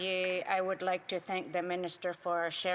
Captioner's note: speaking French